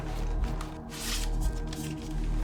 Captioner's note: paper sliding